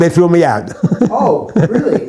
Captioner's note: laughs